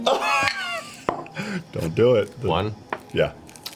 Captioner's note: laughs painfully